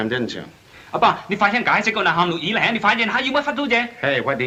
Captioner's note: speaks Chinese